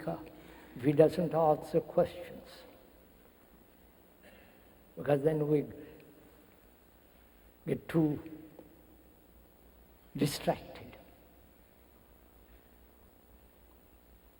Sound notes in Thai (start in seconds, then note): none